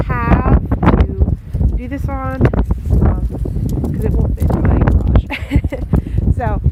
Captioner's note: laughing